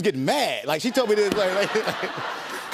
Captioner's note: laughter